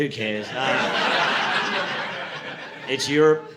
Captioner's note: audience laughing